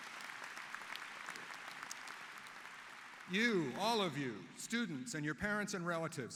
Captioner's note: applause